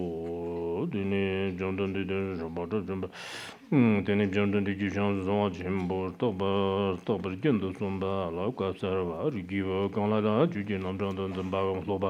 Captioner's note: giving oral transmission in Tibetan